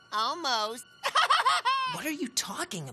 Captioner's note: chuckles